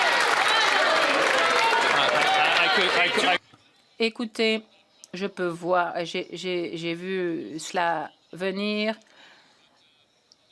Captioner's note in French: applaudissements; voix de l'interprète